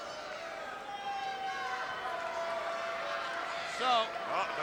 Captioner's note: crowd yelling